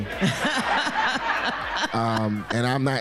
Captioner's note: laughing